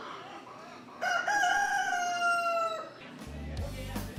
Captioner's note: rooster crowing